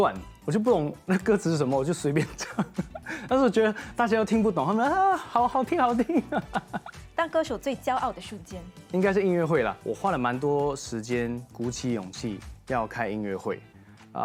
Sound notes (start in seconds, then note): 6.2 laughs